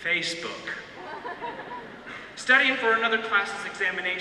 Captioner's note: audience laughter